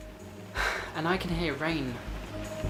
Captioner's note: huff